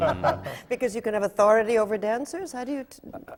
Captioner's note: laughter from the panel